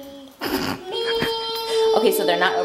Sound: laughs

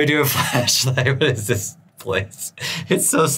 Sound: chuckling

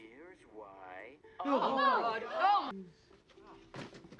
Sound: everyone going oh god

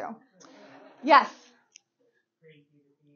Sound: audience laughing

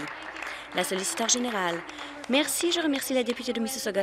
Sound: applause

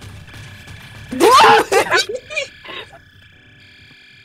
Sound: screaming

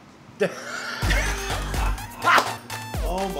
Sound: both laugh

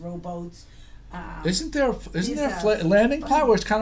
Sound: voiceover

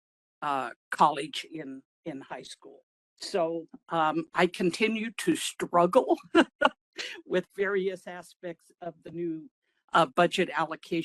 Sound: laugh

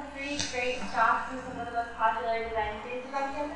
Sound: muffled, No Microphone

